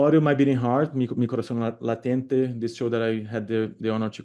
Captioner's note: speaking spanish